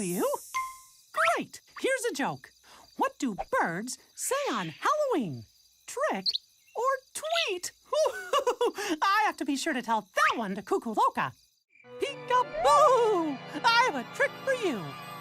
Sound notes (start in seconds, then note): 7.9 chuckles